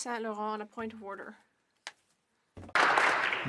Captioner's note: applause